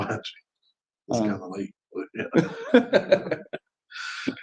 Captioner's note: laughs